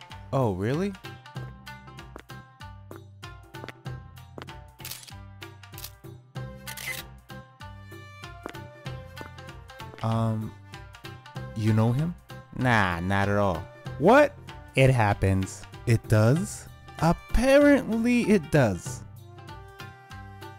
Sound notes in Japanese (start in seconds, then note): 2.0 男が近づいてくる足音